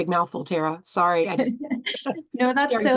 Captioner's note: laughing